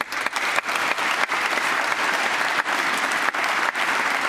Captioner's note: applause